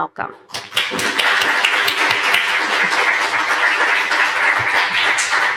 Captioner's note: applause